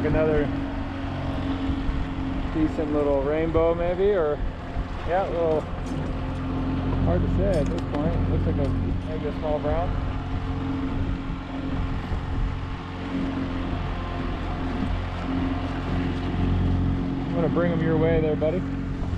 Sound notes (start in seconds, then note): 10.9 boat enigne running